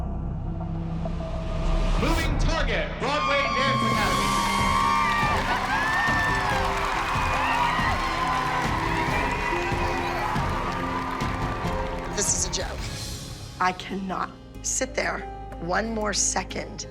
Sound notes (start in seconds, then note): 4.5 audience cheers and applauds